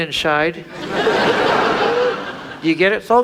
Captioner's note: audience laughs